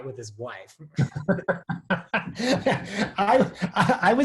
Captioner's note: laughs